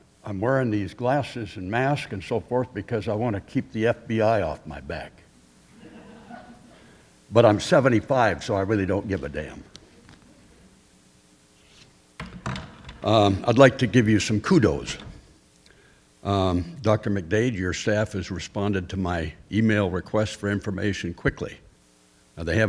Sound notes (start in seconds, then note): 5.6 attendees chuckling; 12.2 glasses clattering